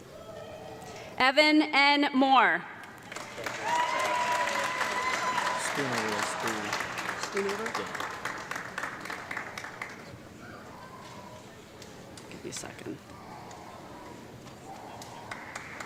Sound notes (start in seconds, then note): 2.8 audience clapping and cheering